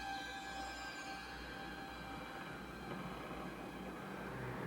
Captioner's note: wind blowing